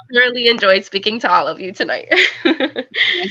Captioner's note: laughter